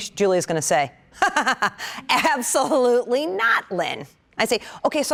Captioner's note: laughter